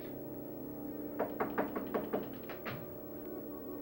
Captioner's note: knocking